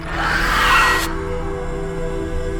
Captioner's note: screams